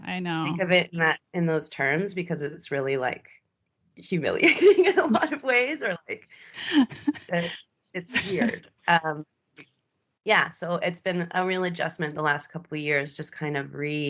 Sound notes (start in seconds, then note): 8.1 both giggling